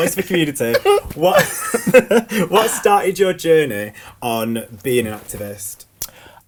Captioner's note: laughs